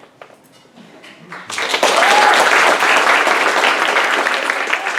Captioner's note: applause